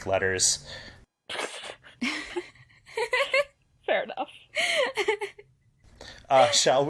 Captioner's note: laughter